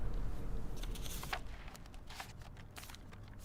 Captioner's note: Judge rustling papers